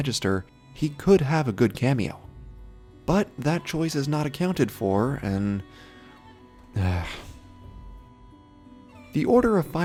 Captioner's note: sigh